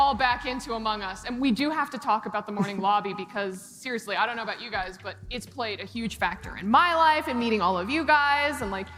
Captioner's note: laughter